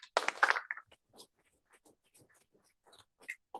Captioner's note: applause